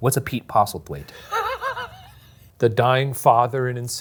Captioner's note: laughing